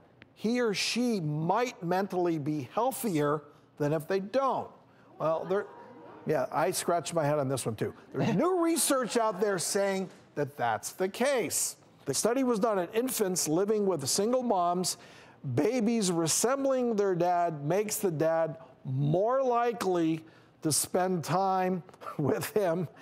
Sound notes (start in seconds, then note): 5.4 audience murmurs; 22.0 chuckles